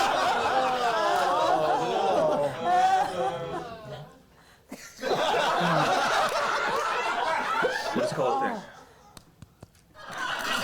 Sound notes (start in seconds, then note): 0.0 audience reacts; 0.9 laughter; 10.0 laughter